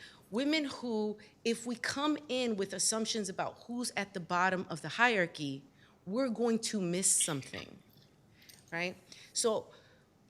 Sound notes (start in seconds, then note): none